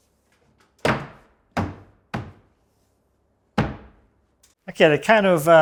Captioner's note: band board pounding